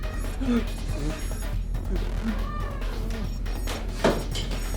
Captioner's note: muffled yelling; tense, dramatic music